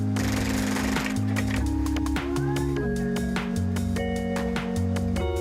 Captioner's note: sewing machine whirring